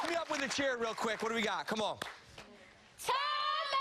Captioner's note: cheers and applause